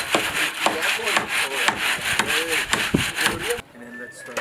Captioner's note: chatter